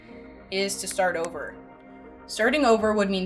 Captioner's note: words click